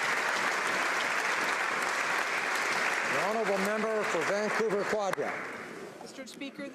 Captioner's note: applause